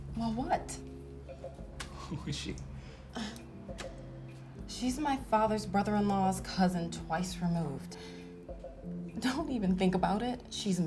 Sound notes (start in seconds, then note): 1.9 laughing; 2.7 sighs